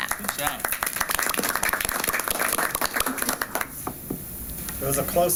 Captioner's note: applause